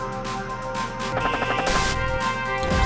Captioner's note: gun firing; upbeat music